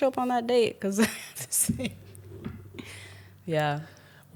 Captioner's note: laughs